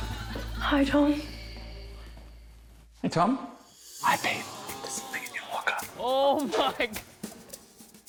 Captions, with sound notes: Hi, Tom. Shh! Hey, Tom. (WHISPERS) Hi, Pete. There's something in your locker. Oh my...!